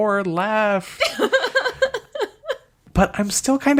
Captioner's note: laughs